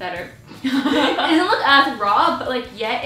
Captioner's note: giggles